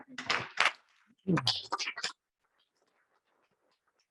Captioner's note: audience clapping